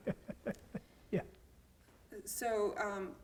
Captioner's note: laugh